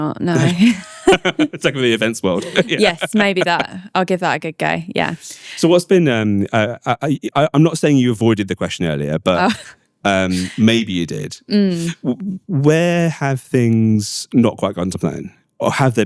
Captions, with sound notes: Maybe not, no. (laughing) Take over the events world. Yes, maybe that. I'll give that a good go, yeah. So what's been, I'm not saying you avoided the question earlier, but maybe you did. Where have things not quite gotten to plan?